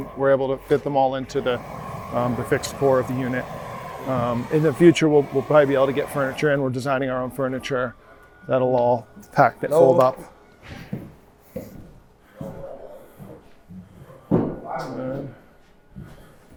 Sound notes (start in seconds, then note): 10.5 footsteps